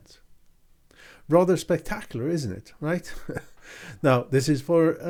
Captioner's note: laughing